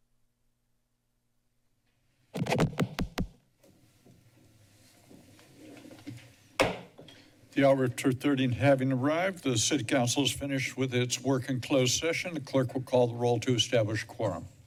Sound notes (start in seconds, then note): 0.0 silence; 2.3 microphone tap; 6.6 bangs gavel